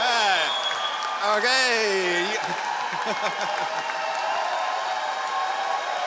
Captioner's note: laughs